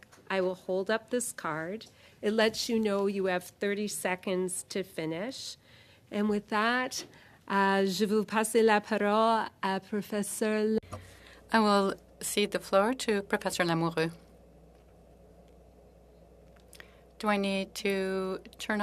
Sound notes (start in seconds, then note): 12.2 speaking French